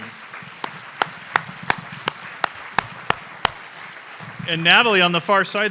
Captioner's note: audience applause